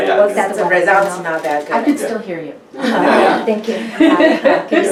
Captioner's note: group laughs